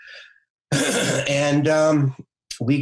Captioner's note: clears throat